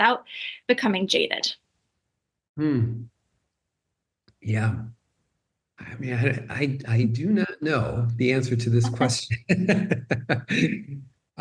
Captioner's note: both laugh